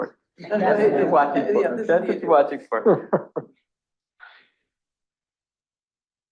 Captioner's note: chuckles